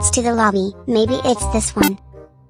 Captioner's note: beeps